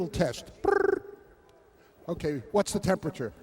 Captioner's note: chirps